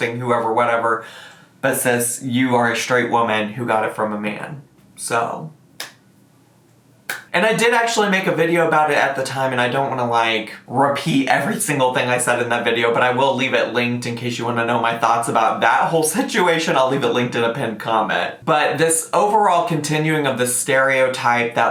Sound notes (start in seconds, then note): 5.8 hands clap